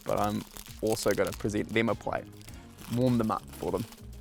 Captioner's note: none